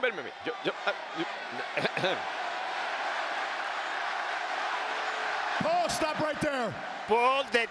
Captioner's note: applause